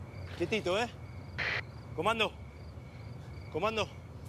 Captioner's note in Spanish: estática en radio